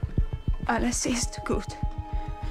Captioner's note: speaking gerмаn